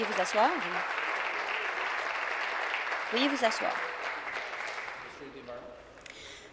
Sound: applause

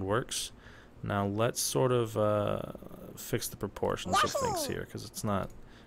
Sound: Yoshi noise

